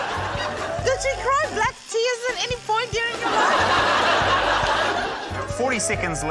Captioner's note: laughter